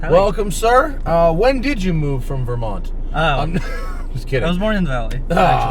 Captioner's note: laughs